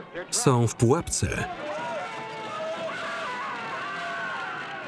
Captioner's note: screaming